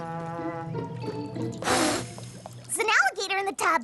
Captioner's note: blows